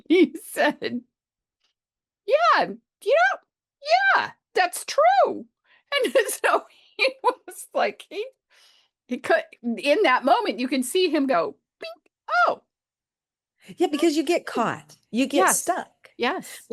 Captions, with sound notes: He said, "Yes, that's true." [laughs] In that moment, you can see him go, "Oh." Yes, because you get caught. You get stuck.